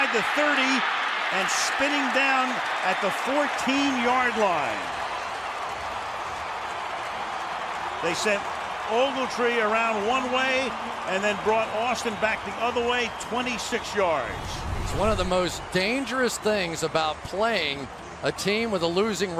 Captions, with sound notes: Inside the 30 and spinning down at the 14-yard line. [cheering] They sent Ogletree around one way and then brought Austin back the other way. 26 yards. It's one of the most dangerous things about playing a team